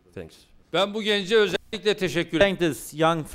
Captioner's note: non-english speech